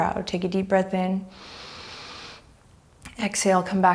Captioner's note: deep breaths